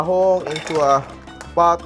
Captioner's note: clatters